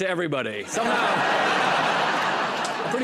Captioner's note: laughter